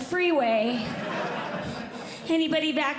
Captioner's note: audience Laughing